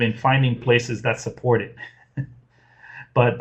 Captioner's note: laughs